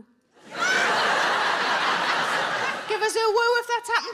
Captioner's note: audience laughing